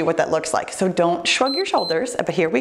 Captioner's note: timer beeps